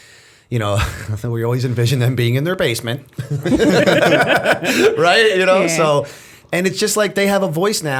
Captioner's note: laughter